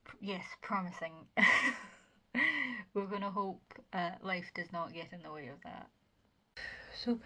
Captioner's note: laughs